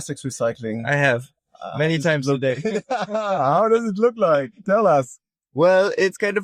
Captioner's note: laughing